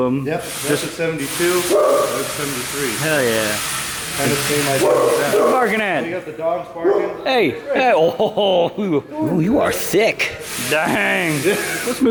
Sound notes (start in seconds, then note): 4.8 loud barking